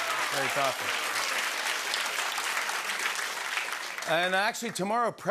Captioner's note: applause